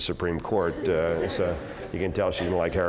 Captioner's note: laugh